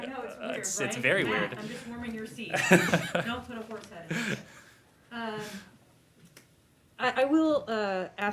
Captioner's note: laughter